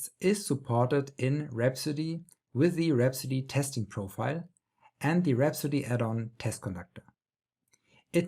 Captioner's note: click